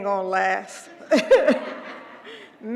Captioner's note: laugh